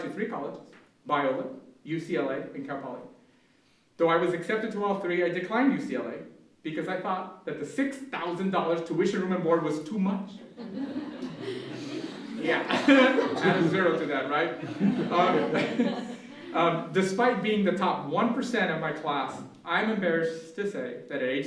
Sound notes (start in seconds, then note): 10.5 laughter